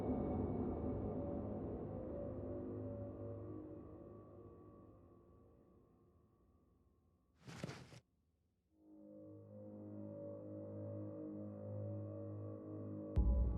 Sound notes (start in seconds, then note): 7.4 clothes rustling; 8.9 soft ominous music